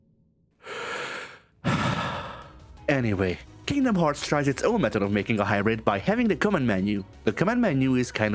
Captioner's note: sigh